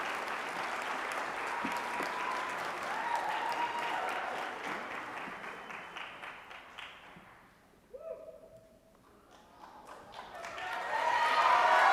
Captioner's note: applause